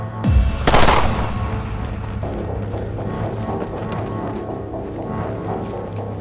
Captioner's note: suspenseful music; gunshot booms